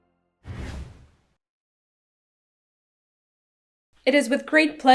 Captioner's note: air whooshing